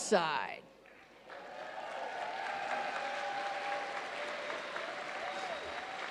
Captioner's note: audience cheers and applauds